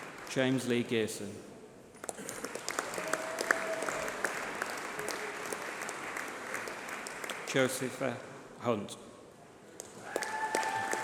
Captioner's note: applause